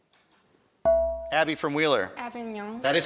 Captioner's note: buzzer chimes